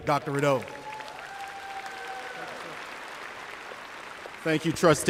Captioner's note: applause